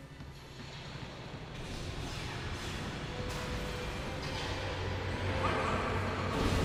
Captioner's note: echoing distant battle sounds from the movie; gunshots